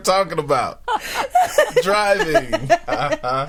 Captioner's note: group laughing